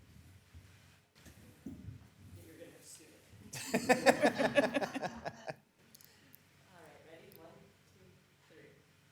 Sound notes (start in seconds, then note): 3.5 attendees laughing